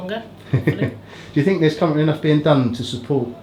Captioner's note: laughs